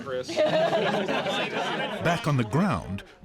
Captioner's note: laughter